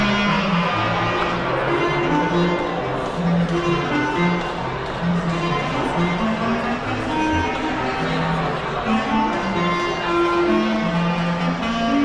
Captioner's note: crowd chatter and live music